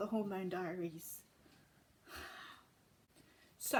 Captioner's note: exhales